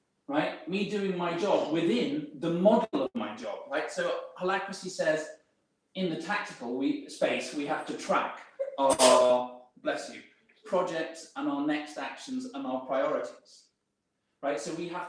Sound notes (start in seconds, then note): 8.8 audience member sneezes